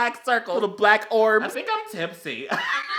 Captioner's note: laughs